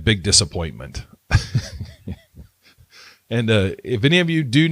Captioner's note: laughs